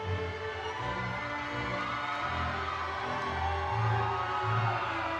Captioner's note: audience cheering